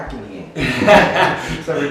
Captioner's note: laugh